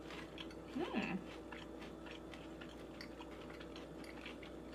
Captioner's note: crunching